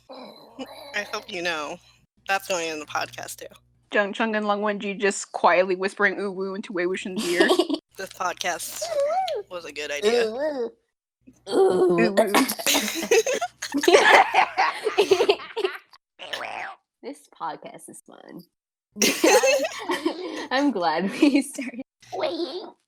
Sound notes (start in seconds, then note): 7.2 giggle; 12.1 coughs; 12.2 laughter; 19.0 laughter